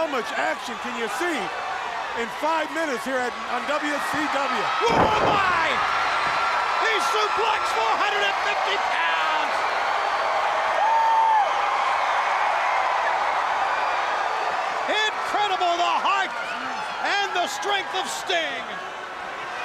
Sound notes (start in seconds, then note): 5.8 crowd cheering; 9.1 crowd cheering; 19.4 crowd chatter